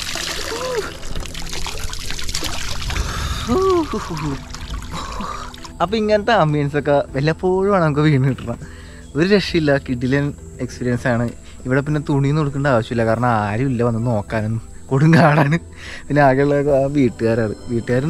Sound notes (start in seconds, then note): 3.3 sound of water falling